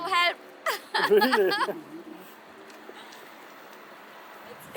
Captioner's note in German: Lachen